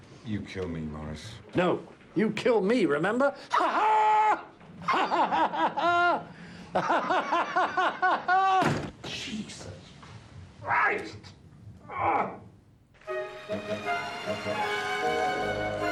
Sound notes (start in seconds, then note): 3.3 Maurice laughing; 8.6 door bangs; 13.0 dramatic music